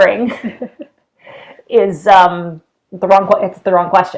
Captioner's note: both laughing